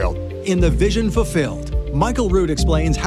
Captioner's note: male Voice